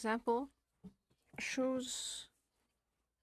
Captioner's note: speaking French